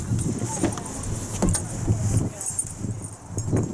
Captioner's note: opening driver's door